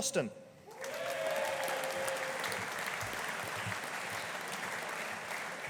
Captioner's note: audience applauding